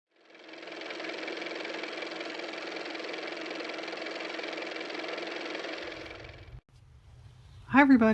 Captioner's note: car motor